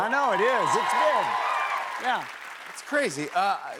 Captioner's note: cheers and applause